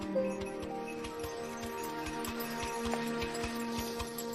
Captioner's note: sleigh bells jingling